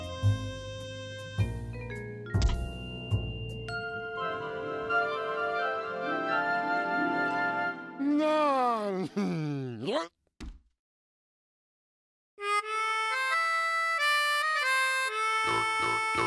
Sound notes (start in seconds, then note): 1.7 ringing; 8.0 mumbles happily; 8.6 grunts; 11.6 jazzy tune